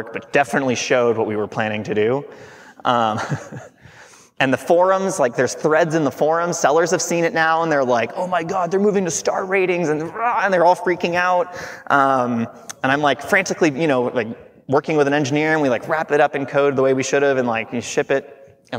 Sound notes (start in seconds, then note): 2.9 chuckling